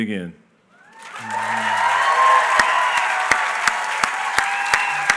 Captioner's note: applause